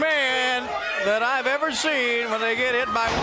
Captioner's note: crowd cheering